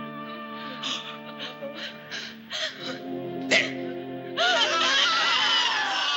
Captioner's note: whimpering; screams